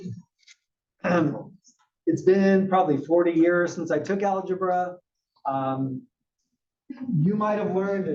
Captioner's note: cough